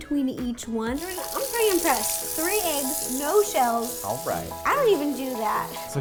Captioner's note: sound of water running